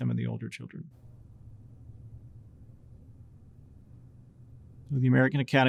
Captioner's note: silence